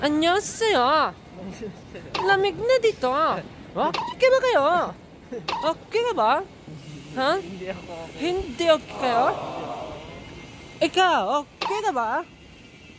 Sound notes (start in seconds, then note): 2.1 korean accent; 5.4 in korean accent